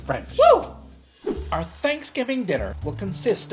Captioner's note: cheers; air whooshing